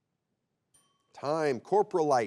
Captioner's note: bell chimes